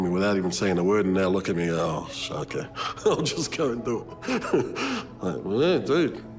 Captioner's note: chuckles